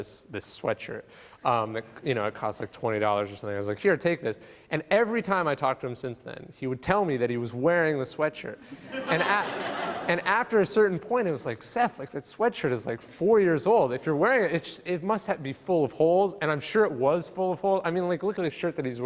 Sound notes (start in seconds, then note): 8.8 laughing